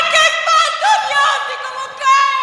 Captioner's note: screams